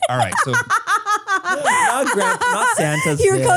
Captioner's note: laughs